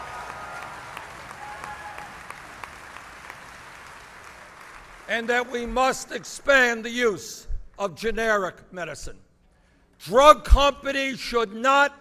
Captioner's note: applause